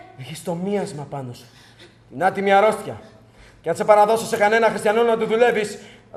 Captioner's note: none